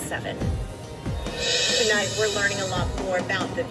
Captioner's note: on TV